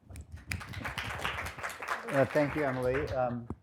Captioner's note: audience applauding